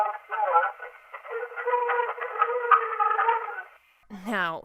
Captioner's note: laughing